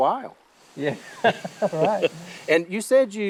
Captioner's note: both laughing